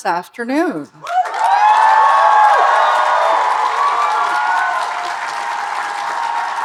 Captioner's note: audience cheering and applauding